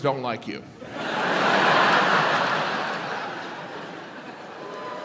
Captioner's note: audience laughs